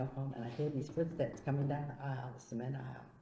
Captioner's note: imitating footsteps